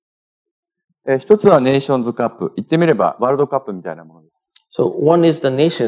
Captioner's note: speaking japanese